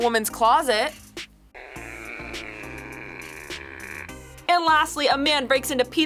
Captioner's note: fart squelches